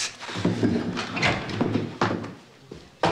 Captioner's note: door opens